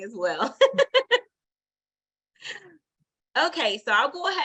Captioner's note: laughs